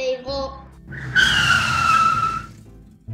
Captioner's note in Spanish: Frenazo